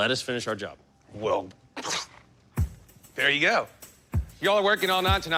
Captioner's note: scoffs